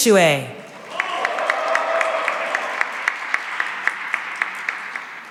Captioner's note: cheering and applause